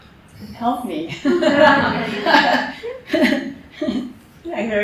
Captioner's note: laughter